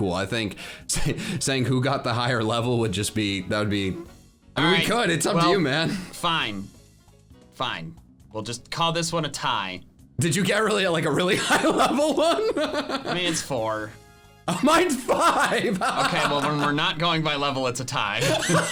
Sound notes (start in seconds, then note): 11.2 laughing; 18.2 both laughing